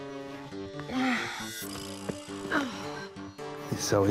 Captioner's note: sighs